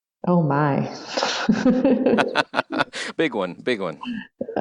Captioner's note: laughs